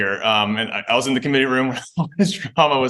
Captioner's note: chuckles